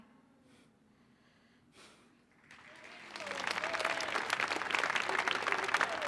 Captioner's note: audience applauding; exhales